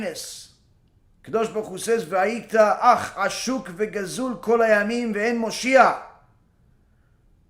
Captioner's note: Lectura del Tanakh en hebreo